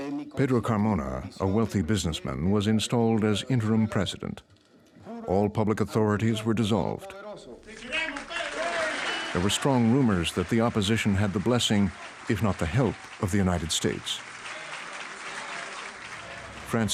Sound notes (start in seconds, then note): 8.0 applause